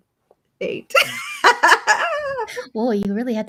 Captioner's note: laughs